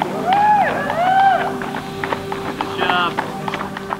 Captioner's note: crowd cheering